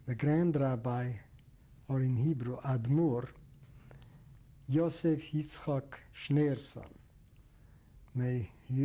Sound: hebrew

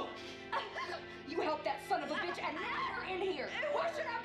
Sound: Rowena gasping

